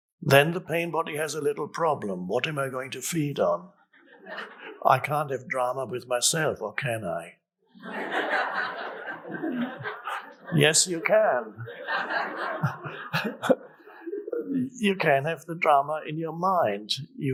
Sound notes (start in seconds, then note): 7.7 audience laughs; 13.0 Eckhart laughs